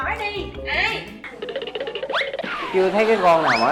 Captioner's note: laughing